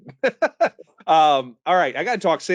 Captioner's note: laughs